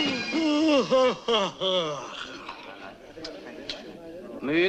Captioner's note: yawning